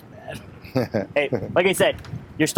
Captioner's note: laughing